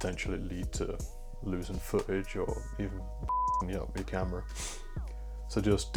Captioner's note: beep